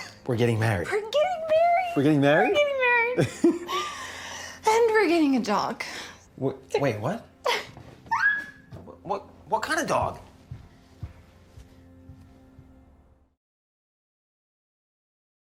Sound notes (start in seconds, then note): 3.2 Kevin laughs; 7.6 Jackie laughs